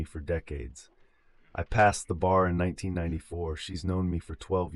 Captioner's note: exhale